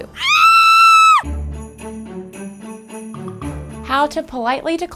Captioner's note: woman screaming